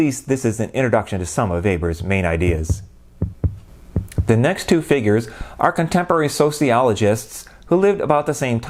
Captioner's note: heart beat